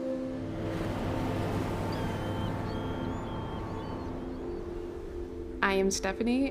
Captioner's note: waves lapping; seagulls crying